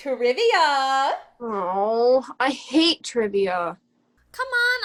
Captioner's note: groan